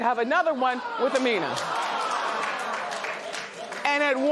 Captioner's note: audience reacts